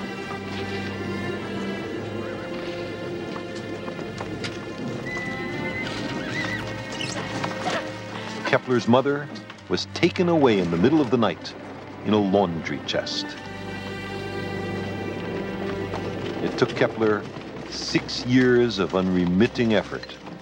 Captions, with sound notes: (HORSE WHINNIES) (WOMAN CRIES) Kepler's mother was taken away in the middle of the night... ...in a laundry chest. It took Kepler six years of unremitting effort...